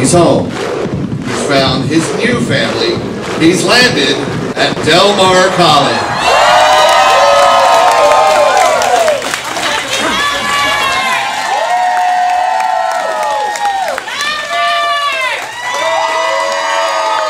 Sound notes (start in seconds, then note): 6.5 cheering